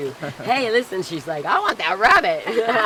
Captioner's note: laughs